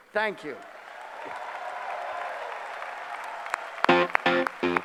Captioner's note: applause